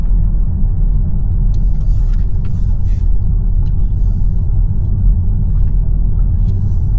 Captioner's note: wind blowing